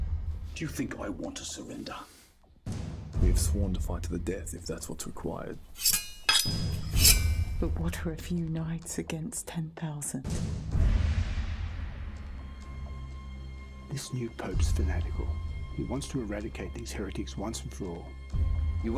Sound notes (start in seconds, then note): 2.7 dramatic music; 5.6 metal unsheathing; 12.6 foreboding music